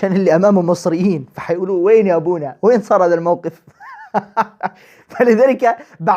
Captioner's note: laughter